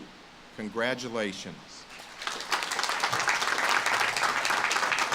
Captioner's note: audience claps